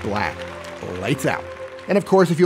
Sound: angelic music; people clapping

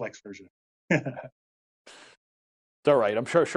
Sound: giggles

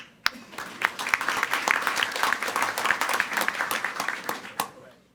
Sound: everyone applauding

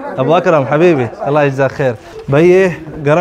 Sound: Arabic

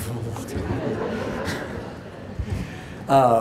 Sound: laughing

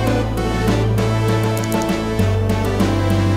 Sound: mouse clicking

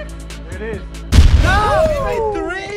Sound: cannon firing

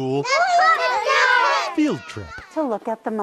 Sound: children shouting

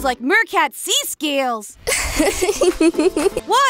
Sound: laughs

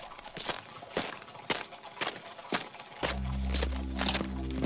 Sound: hooves clopping; boots stomping; ominous music

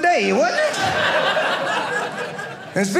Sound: audience laughing

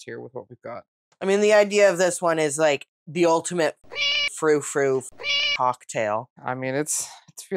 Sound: meow

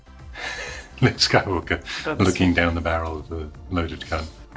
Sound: chuckles

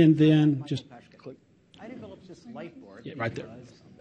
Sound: video audio playing

